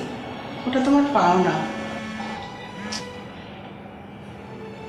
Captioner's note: phone vibrating